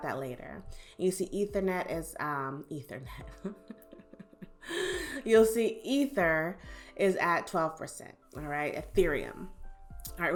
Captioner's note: chuckles